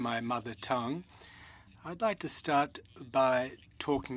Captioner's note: speaking French